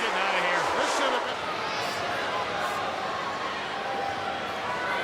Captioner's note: crowd yelling